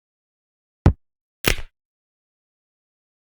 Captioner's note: crack